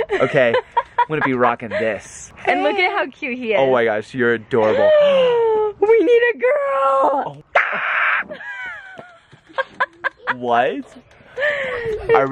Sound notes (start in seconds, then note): 7.5 laughs; 7.6 screaming